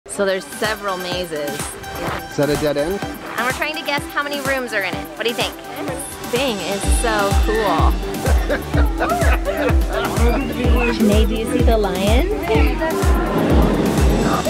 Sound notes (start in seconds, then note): 8.0 laughing heartily; 8.6 upbeat music plays; 10.2 shrieking in excitement; 13.7 people chattering